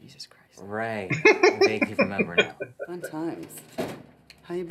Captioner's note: laughing